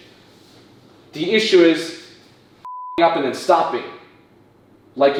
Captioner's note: beep